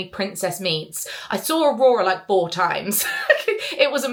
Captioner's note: laughs